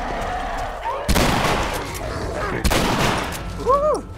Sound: gunshots

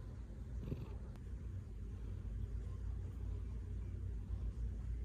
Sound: grrrrrrrrrrrrrrrrrrr

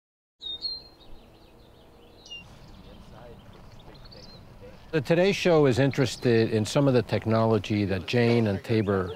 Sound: birds chirping

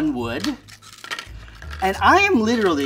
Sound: chips clatter

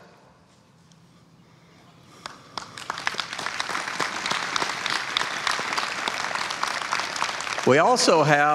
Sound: applause

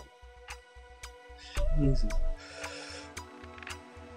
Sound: ticking noise

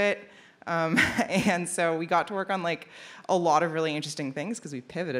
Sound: laughs

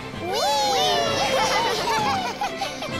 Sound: laughing

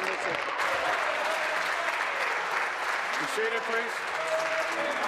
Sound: applause

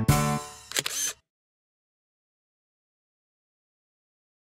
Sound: SFX: Camera Shutter

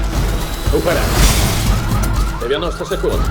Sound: alarm blaring

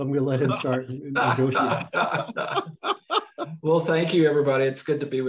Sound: laugh

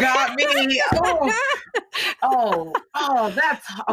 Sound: laughing

